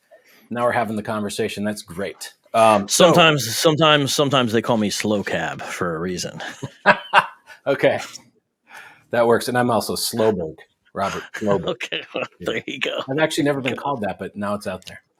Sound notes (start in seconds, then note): 6.9 laughs